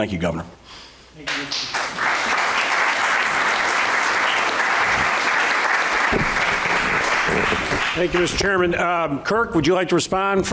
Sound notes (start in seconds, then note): 2.8 applause